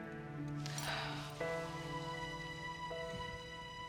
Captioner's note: sighing